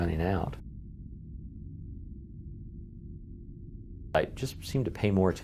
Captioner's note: background - Airplane engines